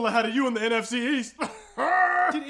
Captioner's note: even weirder laughing again